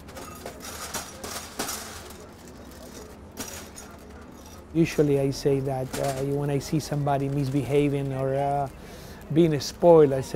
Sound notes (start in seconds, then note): 0.0 nuts rattle